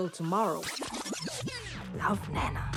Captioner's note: record scratch, music fades